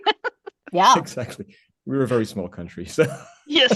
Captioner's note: laughs